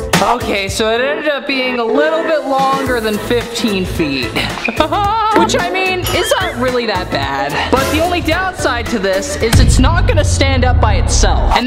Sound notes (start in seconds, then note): 4.6 laughing